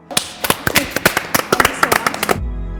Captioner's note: both clapping; ethereal music